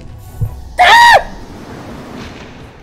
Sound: scream

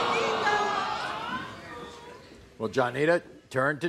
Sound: audience awes

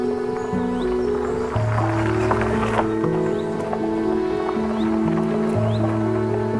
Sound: tires crackling on gravel

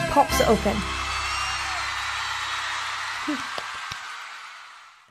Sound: cheering

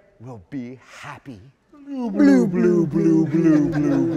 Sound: both blubbering

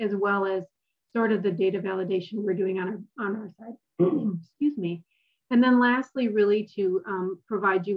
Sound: cough

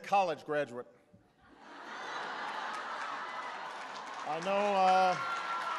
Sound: laughter and applause

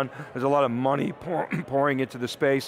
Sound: clears throat

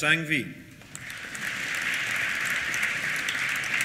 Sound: applause

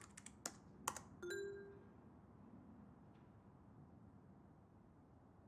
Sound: message beeping

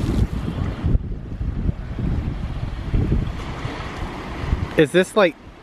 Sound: waves crashing into shore

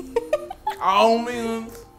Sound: laughs

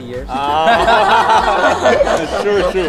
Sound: everyone laughs

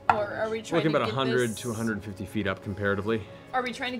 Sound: none

